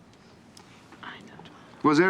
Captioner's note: whispering